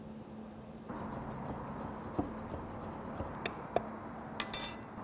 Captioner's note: knife slicing